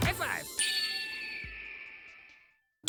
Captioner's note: screech of a red tailed hawk